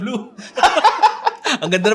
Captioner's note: both continue laughing